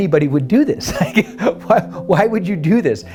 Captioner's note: laughs